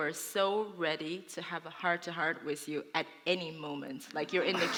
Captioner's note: laughter